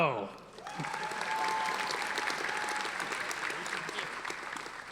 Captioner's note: audience applauding